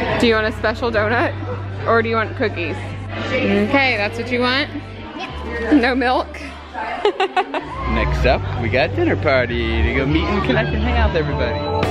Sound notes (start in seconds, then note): 6.4 laughs